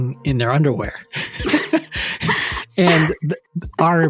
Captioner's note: chuckles